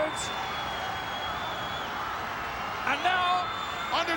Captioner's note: crowd cheering